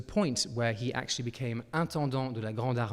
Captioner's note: speaking in French